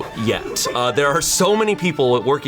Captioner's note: colleagues laughing